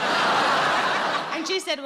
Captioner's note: audience laughing